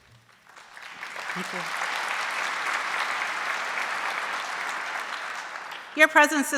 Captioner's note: audience applauding